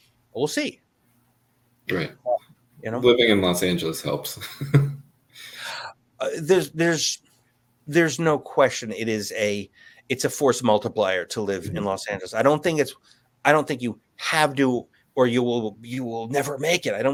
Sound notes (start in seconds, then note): 4.0 chuckles